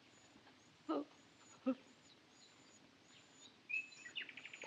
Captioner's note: whimpering